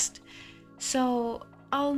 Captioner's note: sigh